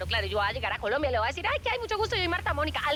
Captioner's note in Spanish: none